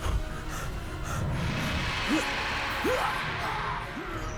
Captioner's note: alien roars